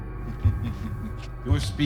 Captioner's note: laughs